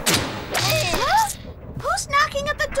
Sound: bang

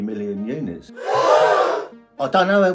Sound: audience gasping

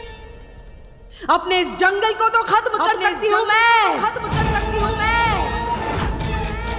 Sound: echoes

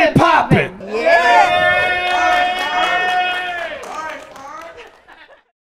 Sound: crowd cheering and applauding

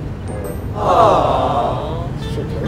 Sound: crowd

